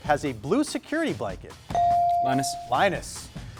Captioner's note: buzzer dings